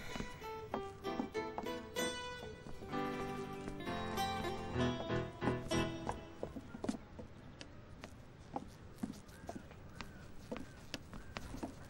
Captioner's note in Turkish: Ayakkabı sesi